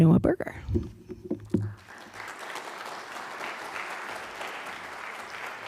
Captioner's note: applause